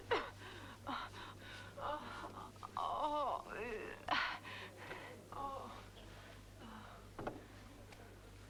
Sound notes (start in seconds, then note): 2.1 Hundra moaning